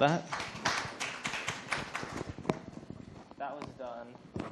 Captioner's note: applause